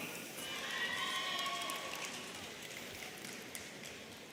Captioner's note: audience cheering